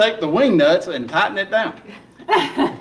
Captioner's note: laughing